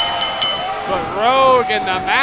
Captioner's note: bell dinging